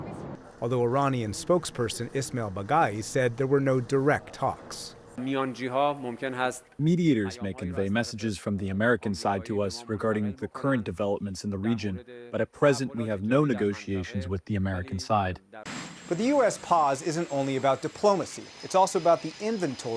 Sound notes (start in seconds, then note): 7.2 through translator